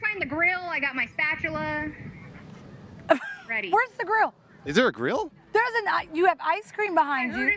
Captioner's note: laughter